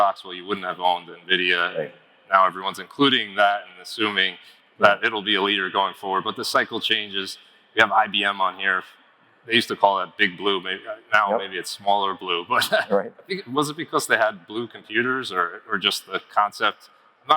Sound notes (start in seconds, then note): 12.6 laughs